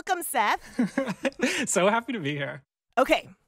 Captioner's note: laughter